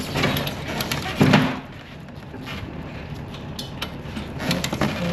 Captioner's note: crate thuds